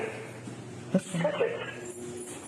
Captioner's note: radio chatter